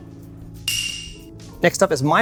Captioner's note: bell dings